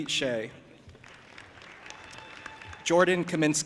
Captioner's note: audience applauding and cheering